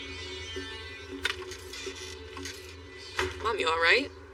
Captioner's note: door crcreaks